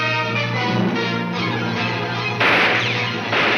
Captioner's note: guns fire